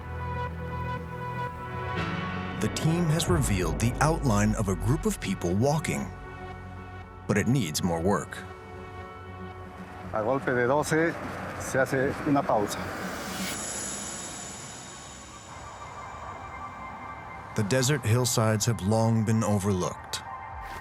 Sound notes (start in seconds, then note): 10.5 speaking Spanish